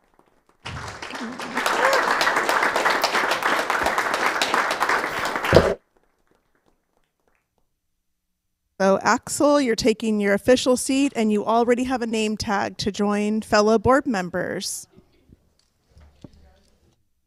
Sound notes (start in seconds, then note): 0.0 all applauding